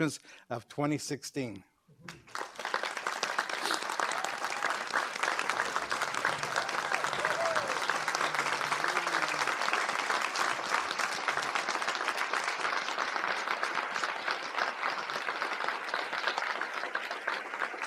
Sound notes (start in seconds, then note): 5.3 applause; 5.3 cheers and applause